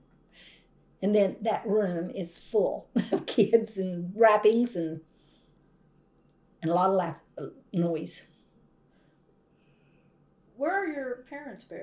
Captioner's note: laughs